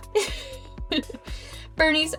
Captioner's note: giggles